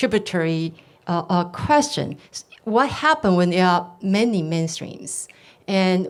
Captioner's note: none